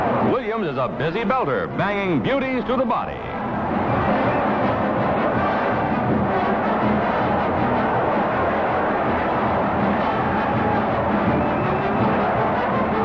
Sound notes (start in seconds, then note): 3.9 crowd noise